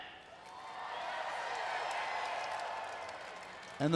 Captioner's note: crowd cheers